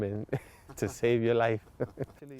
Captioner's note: laughter